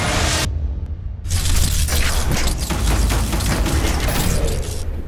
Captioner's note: electricity crackling